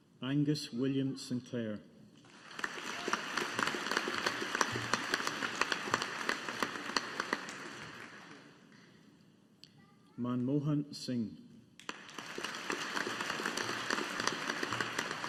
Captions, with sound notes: Angus William Sinclair. (AUDIENCE APPLAUDING) Manmohan Singh. (AUDIENCE APPLAUDING)